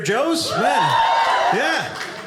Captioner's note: audience cheering